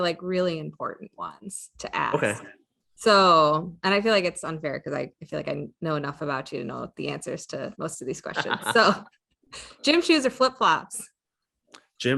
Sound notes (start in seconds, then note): 8.2 laughs